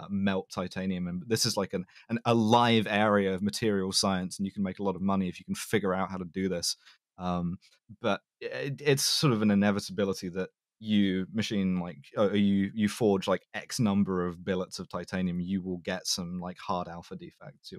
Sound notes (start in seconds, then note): none